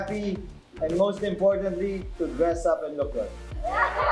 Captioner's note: laughs